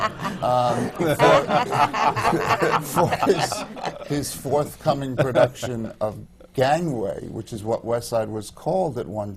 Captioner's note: laughter